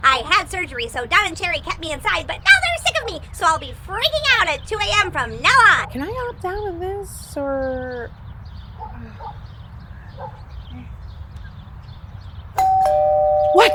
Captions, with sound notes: I had surgery, so Don and Sherry kept me inside, but now they're sick of me, so I'll be freaking out at 2 AM. from now on. - Can I opt out of this, or? Oh god, okay. (dog barking) (doorbell rings)